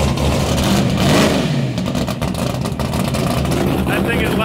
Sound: engine roaring

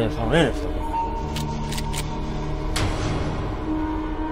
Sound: weapon cocking

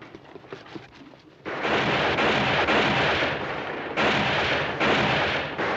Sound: distant gunfire

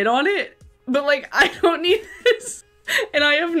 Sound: laughs

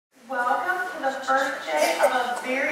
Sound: announcement over speakers

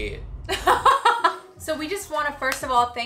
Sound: laughing

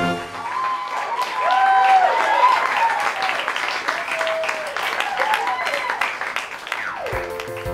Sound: applause

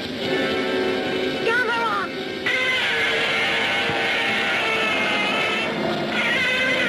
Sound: Gammera screeching

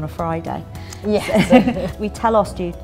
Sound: laughter

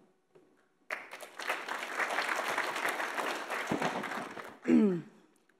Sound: audience applauds

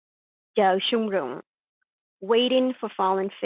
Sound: speaking in a foreign language

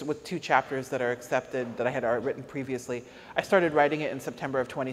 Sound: none

